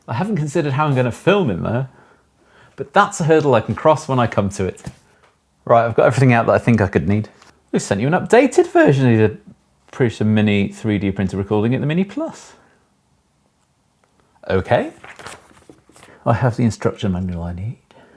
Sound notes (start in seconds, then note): 14.7 papers flapping